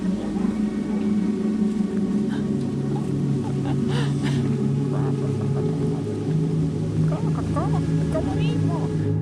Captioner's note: laughter